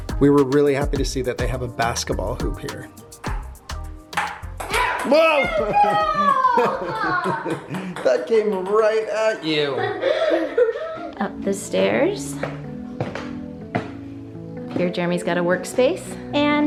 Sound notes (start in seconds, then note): 4.1 ball tapping; 7.2 laughs; 9.7 laughs; 13.3 calm music